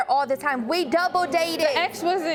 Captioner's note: audience clamoring